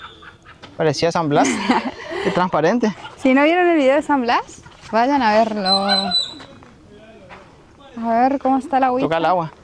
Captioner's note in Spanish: risas